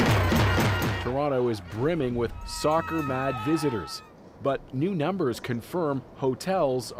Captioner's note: crowd noise